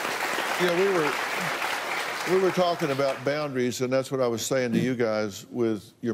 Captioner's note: applause